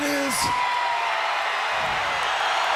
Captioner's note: crowd cheering